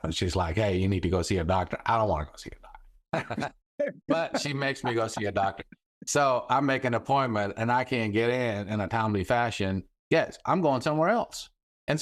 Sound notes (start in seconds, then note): 3.1 laughing; 3.1 laughs